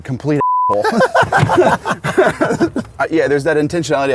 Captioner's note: laughs